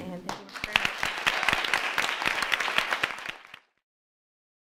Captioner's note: all applauding